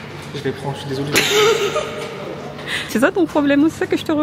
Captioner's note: laughs